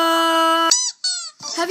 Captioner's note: squeaky toy sound